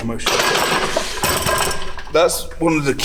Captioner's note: metal clanging